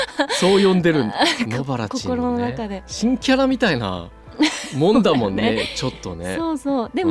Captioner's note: laughs